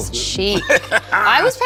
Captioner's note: Colman laughs